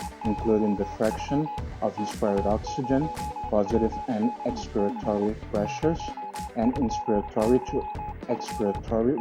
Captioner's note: peep